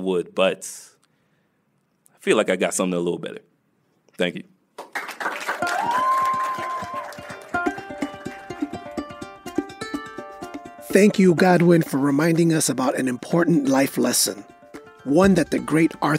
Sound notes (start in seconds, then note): 7.9 applause